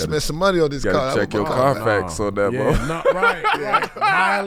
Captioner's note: laughs